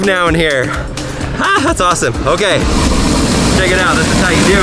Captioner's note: machine whirring